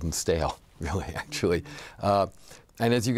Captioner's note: laughs